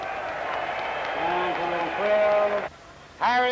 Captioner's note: applause